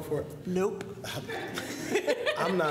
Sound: laughter

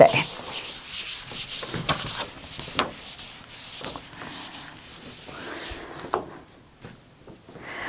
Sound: sound of writing

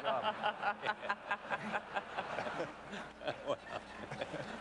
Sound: laughter

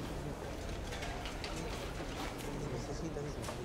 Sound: background chatter

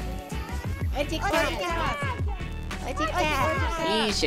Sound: annoying kids voices

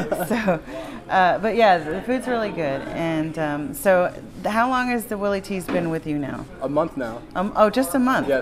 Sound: laughter

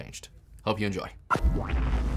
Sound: sound effect

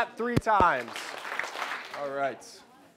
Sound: clapping

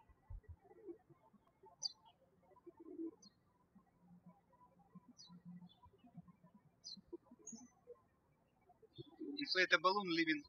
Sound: birds chirping

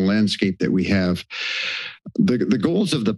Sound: inhales

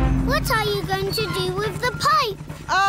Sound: none

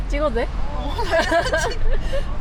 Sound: laugh

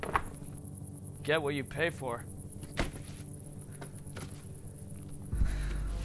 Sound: objects clattering

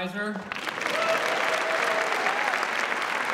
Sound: audience clapping

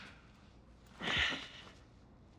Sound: sighs

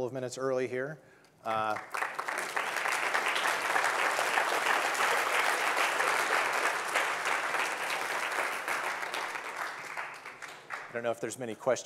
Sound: audience clapping

